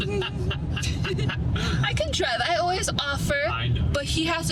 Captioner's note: laughing